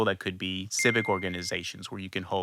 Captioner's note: bell chiming